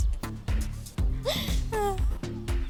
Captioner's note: both chuckling